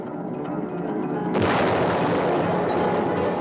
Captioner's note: firing